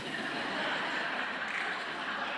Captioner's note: laughter